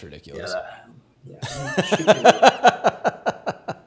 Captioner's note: laughs